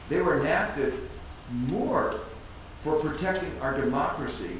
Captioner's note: none